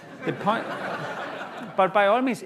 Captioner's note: laughter